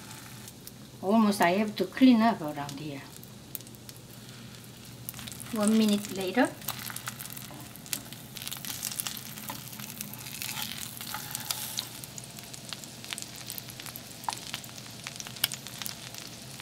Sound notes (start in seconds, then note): 8.8 sizzling